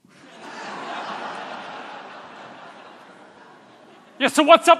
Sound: audience laughing

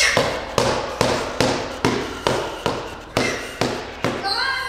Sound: knocking

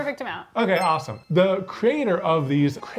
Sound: bell dinging

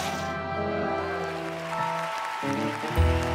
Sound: cheers and applause

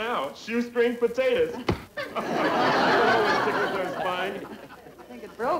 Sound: audience laughing

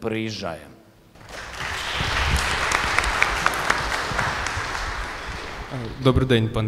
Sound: applause

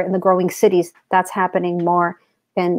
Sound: speaks portuguese

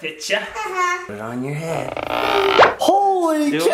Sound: pop

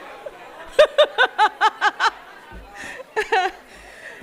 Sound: laughing

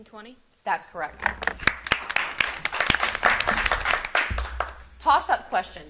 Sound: audience applauding

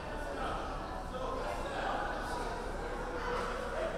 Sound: none

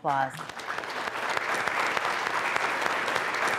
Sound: applause

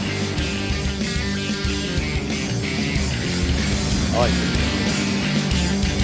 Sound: boat engine running

